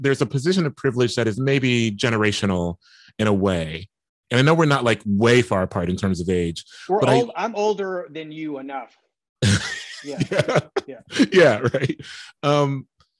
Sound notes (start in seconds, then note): 9.4 laughing